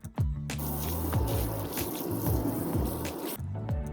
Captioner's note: rushing water